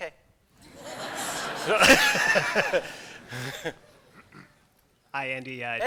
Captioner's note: laughter